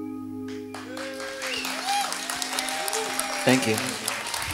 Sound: audience cheering

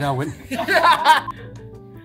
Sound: laughter

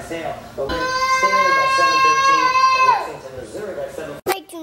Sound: yells

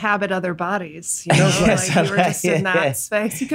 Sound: laughs

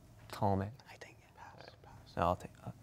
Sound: whispering; quietly; whispers; quietly

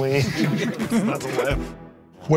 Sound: laughs

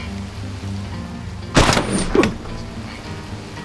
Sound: gunshot

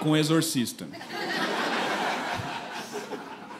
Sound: laughter

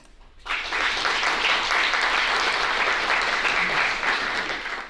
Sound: audience applauds

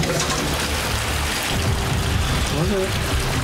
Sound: water splashing; dramatic music

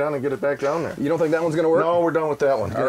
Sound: voiceover

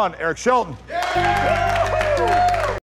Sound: cheering

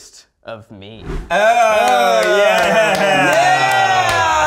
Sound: cheering

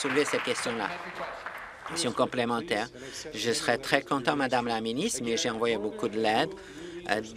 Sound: applause

